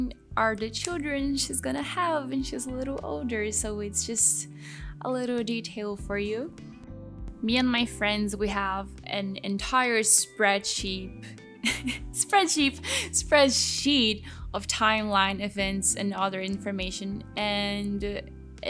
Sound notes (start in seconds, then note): 11.6 chuckles